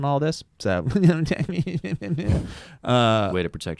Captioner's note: funny voice